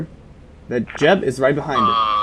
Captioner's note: Walkie Clicks